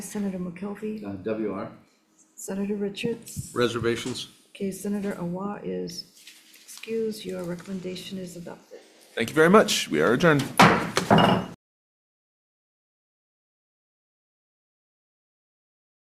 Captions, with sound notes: Senator McKelvey. - WR. - Senator Richards - Reservations. - Okay, Senator Awa is excused. Your recommendation is adopted. - Thank you very much. We are adjourned. (gavel bangs)